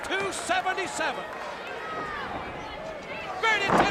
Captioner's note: crowd chatter